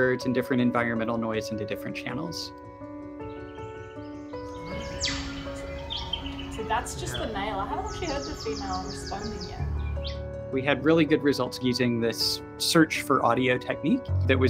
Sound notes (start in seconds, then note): 4.3 loud chirp